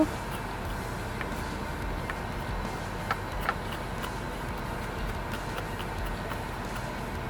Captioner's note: air conditioner whirring; soft music